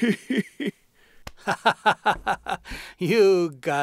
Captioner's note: laughing